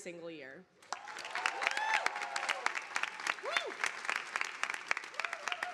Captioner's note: audience applauding